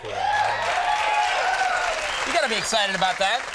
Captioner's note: crowd cheers